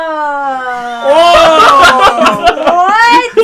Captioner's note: laughs